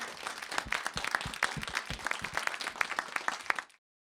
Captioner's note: applause